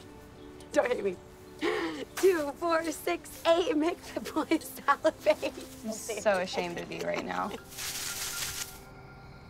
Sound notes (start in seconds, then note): 1.3 laughs; 5.9 laughing